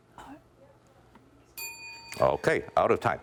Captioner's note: bell rings